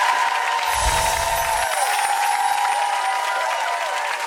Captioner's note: chimes ring